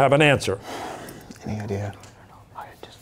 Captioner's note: whispering